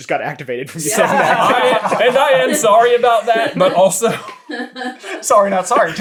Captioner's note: team laughter